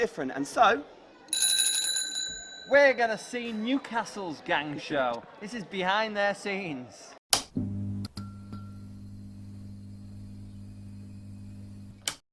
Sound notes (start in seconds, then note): 1.3 rings the bell; 7.6 neon light sounds